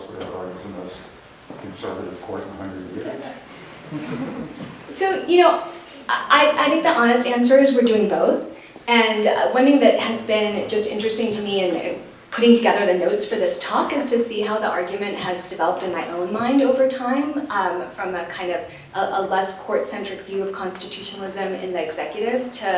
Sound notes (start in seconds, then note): 3.7 laughter